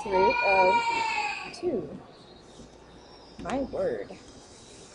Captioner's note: baby crying